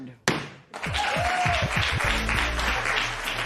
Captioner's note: cheers and applause